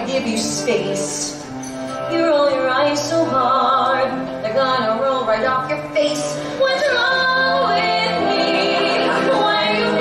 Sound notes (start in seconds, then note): none